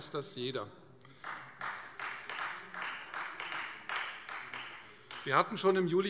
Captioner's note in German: Beifall Freie Demokraten